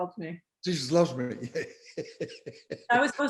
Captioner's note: laughing